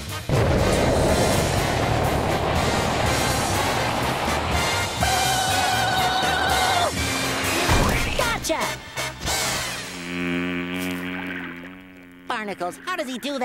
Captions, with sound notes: [screeching] Gotcha! [buzzing] Barnacles. How did he do that?